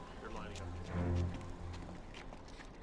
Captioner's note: footstep